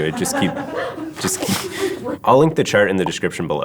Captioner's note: laugh